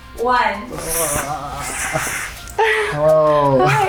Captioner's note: groans